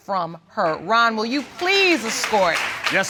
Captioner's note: audience applauding